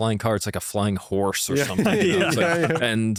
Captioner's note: laughs